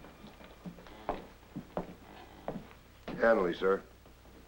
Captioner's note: footsteps approach